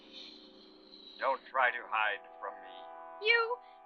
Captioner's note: man on radio; woman on radio